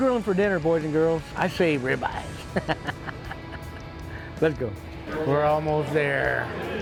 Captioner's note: laughs